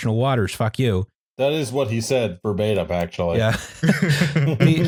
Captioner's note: laughter